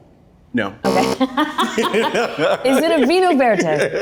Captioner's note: buzzer interrupts